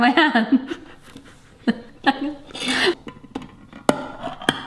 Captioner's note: quiet laughter